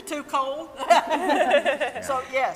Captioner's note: all laughing